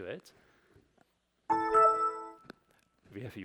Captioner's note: laptop bell